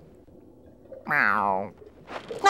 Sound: meowing

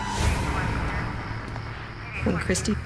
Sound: sirens blaring; police radio chatter

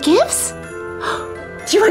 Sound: surprise gasp

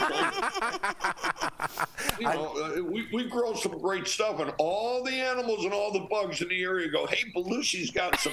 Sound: laughter

